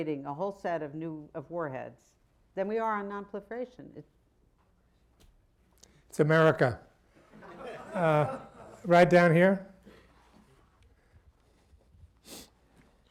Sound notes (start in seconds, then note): 9.0 laughter